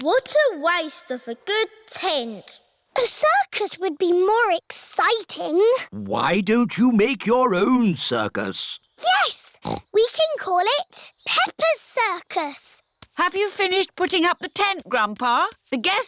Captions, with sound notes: What a waste of a good tent. A circus would be more exciting. Why don't you make your own circus? Yes! (SNORTS) We can call it Peppa's Circus! Have you finished putting up the tent, Grandpa?